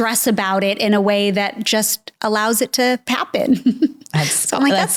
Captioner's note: chuckles